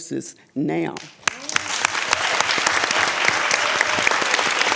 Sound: audience applauds

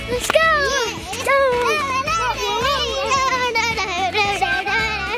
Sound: children chattering

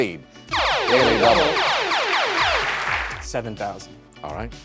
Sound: zapping

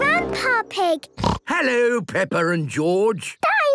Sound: snorts

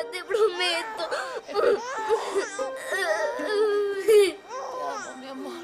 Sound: crying

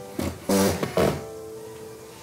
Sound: soft music; drill rattling; soft music

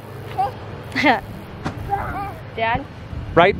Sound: scoffs

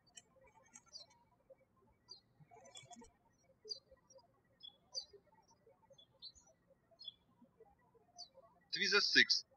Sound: birds chirping

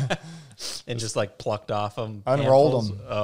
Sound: laughs

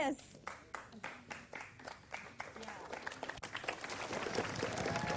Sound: applause

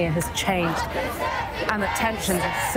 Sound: chanting continues

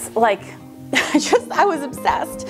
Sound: laughs

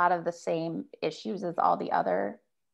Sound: none

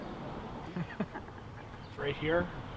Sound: both chuckle

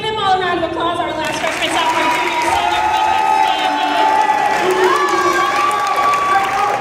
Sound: cheers and applause

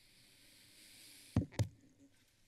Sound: silence; taps microphone; silence

